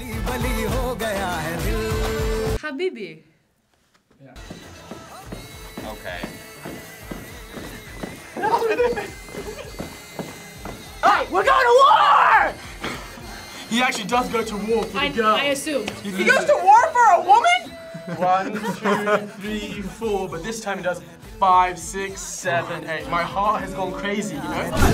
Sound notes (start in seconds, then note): 0.0 upbeat music; 7.4 both laugh